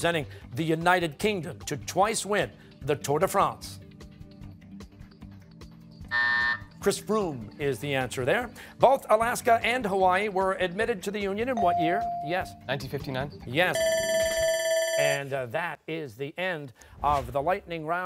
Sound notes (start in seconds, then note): 6.1 buzzer; 13.7 bell rings